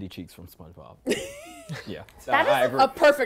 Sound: giggles

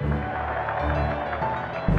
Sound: applause; cheering

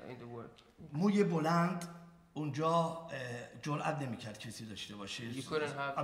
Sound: speaking in farsi

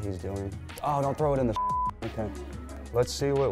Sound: beep

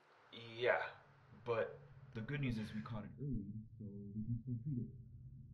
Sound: Dr. Wu's voice muffles

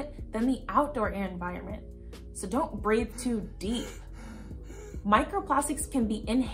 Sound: deep breathing

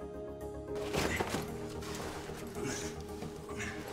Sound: clattering; grunting

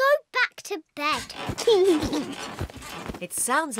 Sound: laughs

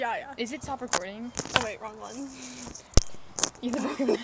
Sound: laugh

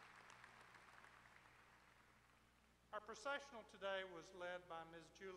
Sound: applause

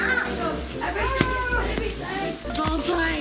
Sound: yells; ball thuds

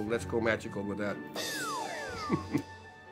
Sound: chuckles

